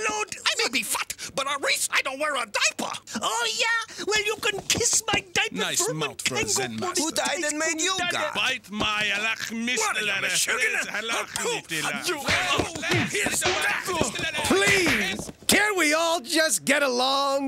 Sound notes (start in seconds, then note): 8.9 speaking foreign language